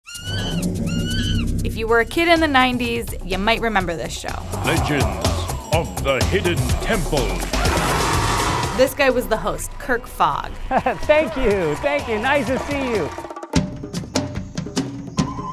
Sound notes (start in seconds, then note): 0.0 wild monkey screeching